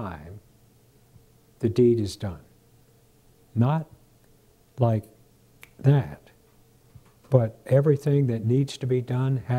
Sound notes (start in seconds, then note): 5.6 snap of fingers